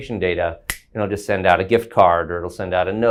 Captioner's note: snaps